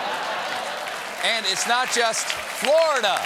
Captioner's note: laughter; applause